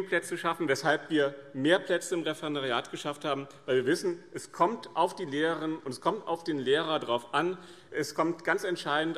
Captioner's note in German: none